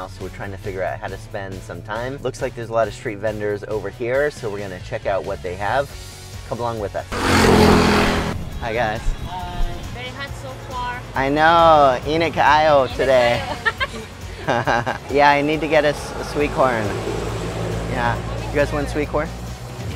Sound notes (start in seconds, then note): 7.0 engine revving; 12.0 speaks in Filipino; 13.0 both laughing; 13.3 woman speaking in Filipino; 19.7 upbeat music